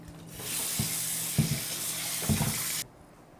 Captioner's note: sound of running water